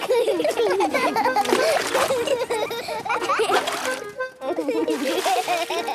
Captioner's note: excited laughter